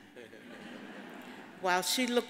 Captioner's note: audience applauding